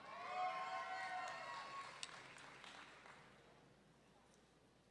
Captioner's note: audience members cheering